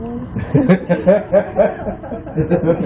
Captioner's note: laughing